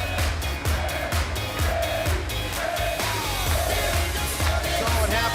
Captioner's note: fans chanting